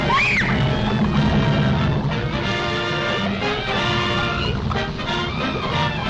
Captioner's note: Lois screams; triumphant music